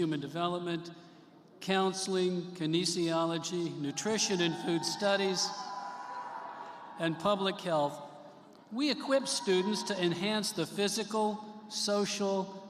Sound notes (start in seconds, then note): 0.2 cheers and applause; 8.2 cheers and applause